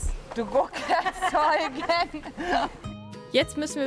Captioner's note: laughing